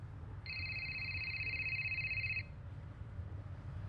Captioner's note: phone ringing